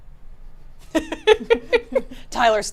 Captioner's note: laughs